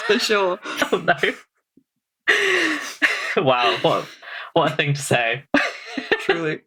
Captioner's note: laughing